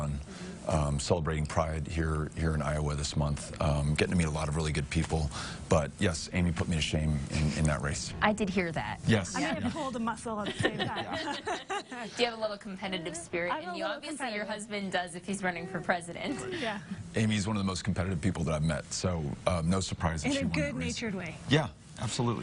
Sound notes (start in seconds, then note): 8.2 chuckling; 12.2 laughing